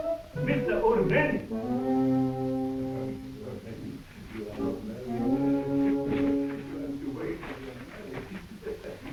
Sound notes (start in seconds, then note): 3.3 background chattering